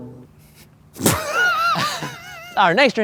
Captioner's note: everyone laughing